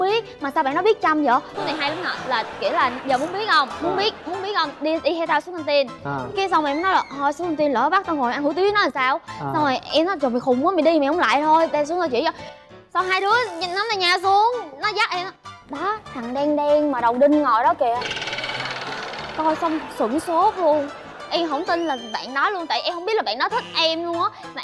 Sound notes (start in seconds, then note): 18.7 laughing